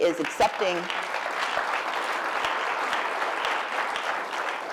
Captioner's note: applause